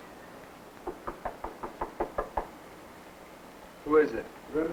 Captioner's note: soft knocking on door